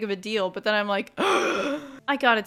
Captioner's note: gAsP